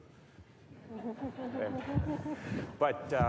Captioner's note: audience laughs